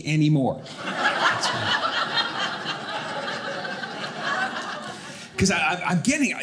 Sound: audience laughing

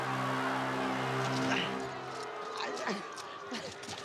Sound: groans

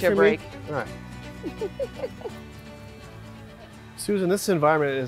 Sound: laughs

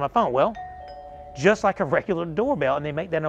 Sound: doorbell chiming

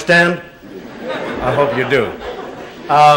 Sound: murmured laughter

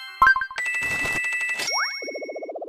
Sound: money sound

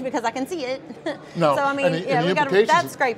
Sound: laughs

